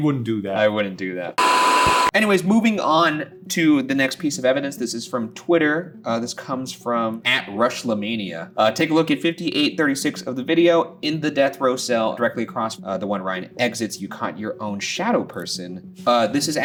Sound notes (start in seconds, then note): 1.4 static crackling